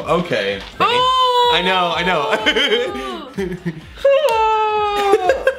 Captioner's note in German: stöhnt; lacht